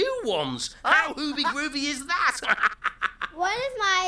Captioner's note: laughing